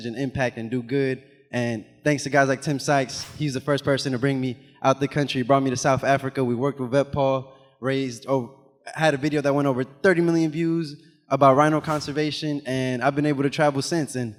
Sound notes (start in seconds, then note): 3.1 animation whooshes; 12.1 animation whooshes